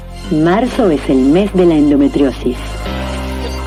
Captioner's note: foreign language 00:38:39